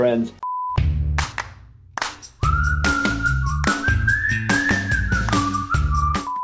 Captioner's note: clapping; upbeat music